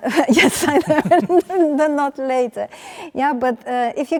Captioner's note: laughs